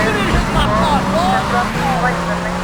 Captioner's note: tires squealing